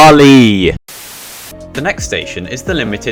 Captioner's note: static Noises